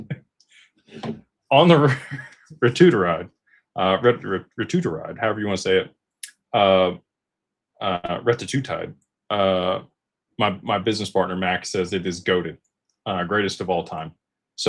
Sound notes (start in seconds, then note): 1.0 clears throat